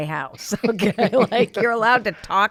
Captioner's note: both laughing